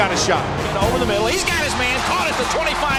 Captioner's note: voiceover